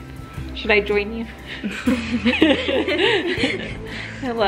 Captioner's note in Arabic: يضحك